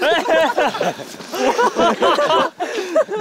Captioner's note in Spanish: Jajaja